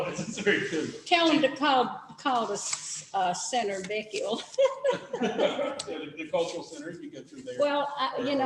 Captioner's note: laughter